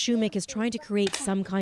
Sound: speaking Foreign Language

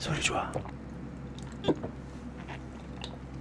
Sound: gulp

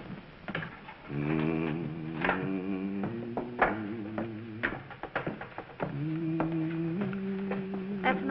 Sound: humming

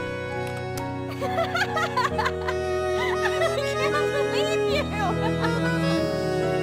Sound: laughs

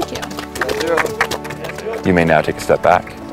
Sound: bikers applaud

